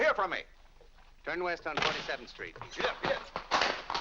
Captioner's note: door slams